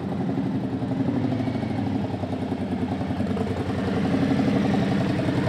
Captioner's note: motorcycle engine revs